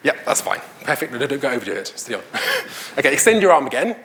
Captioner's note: laughs